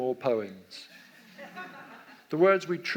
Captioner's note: audience laughs